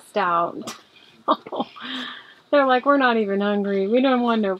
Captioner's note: laughs